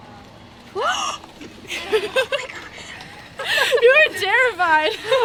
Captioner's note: women giggle